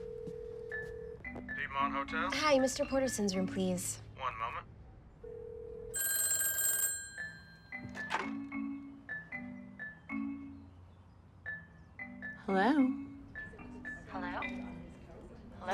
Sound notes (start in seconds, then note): 0.0 line ringing; 6.5 ringing